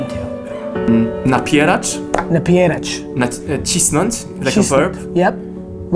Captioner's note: speaking Polish